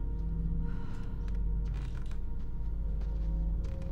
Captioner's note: feet pattering